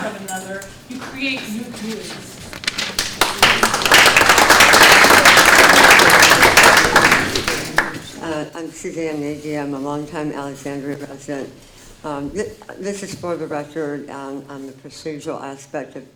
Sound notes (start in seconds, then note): 2.5 audience clapping